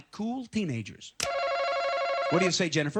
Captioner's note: buzzer